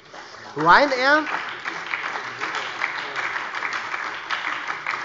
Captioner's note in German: Beifall bei der SPD